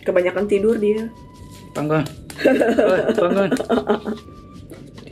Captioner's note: laughs